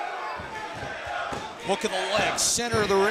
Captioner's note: crowd chatter